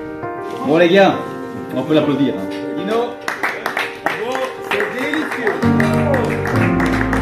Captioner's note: applause